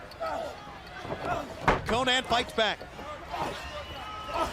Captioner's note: crowd chatter